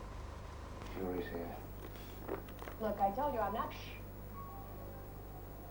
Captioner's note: voices on the television